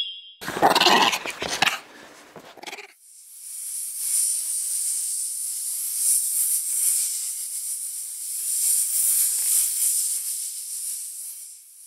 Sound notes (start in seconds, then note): 0.4 growling; 6.2 the hissing of snakes